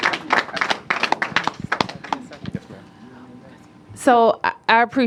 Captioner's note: applause